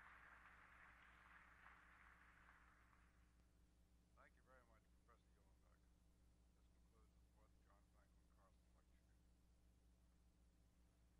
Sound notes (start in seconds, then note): 4.3 indistinct chatters